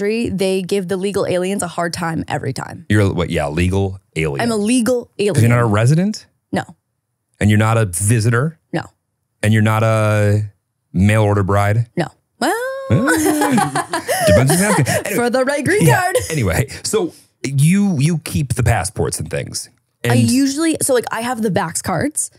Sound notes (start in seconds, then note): 12.6 laughs